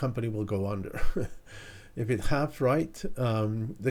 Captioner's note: chuckling